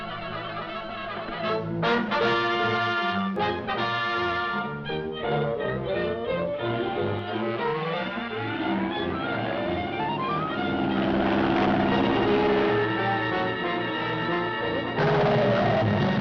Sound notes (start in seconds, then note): 10.6 dramatic music; 10.6 engine rumbling